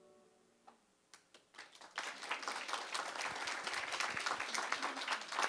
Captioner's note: audience applause